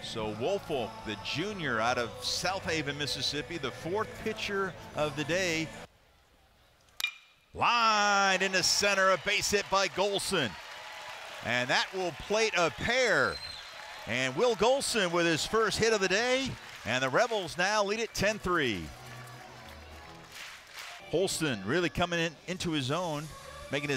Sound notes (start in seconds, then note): 7.0 ball hitting bat